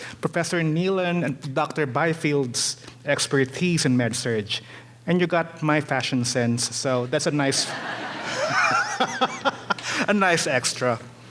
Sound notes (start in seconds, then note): 7.5 audience laughing; 7.6 laughing